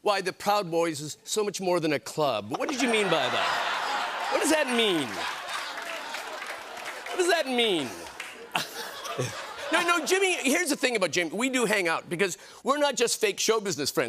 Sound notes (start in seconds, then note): 3.4 laughter